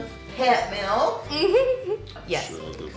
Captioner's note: laughing